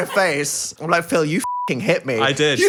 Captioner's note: beep